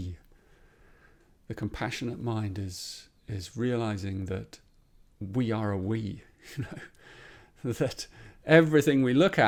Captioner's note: chuckles